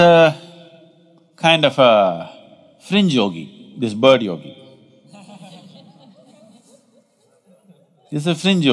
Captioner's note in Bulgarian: Смях